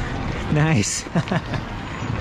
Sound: laughs

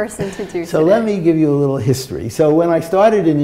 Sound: laughter

